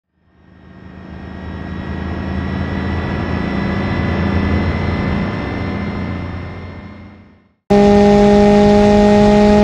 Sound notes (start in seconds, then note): 0.1 truck sound; 7.7 Ibishu 200bx car sound